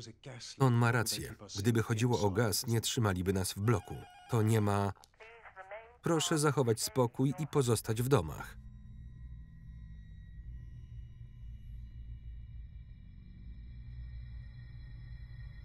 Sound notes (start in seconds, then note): 3.3 intercom buzzer rings; 5.2 intercom